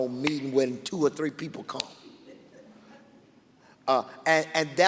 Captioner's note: laughing